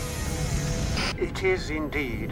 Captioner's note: static hissing